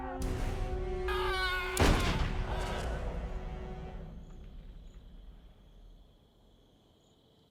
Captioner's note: Marshall yelling; gun shooting